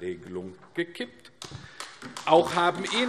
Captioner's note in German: Beifall AfD